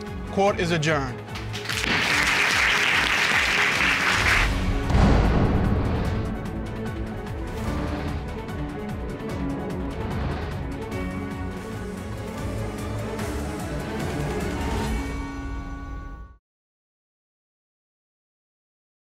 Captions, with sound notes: Court is adjourned. [applause] [dramatic music playing]